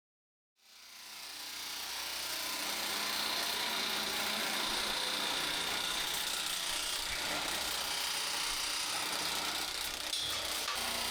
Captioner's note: trimmer buzzing